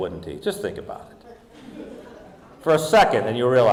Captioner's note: audience laughing